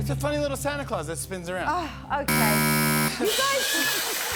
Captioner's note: buzzer; cheering and applause